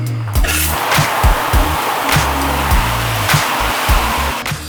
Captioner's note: water splashing